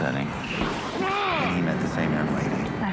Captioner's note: grunts